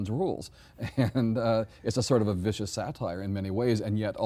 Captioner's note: chuckles